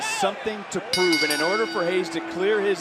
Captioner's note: bell rings